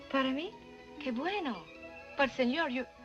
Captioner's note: speaking spanish